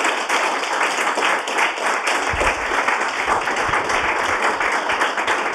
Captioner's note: audience claps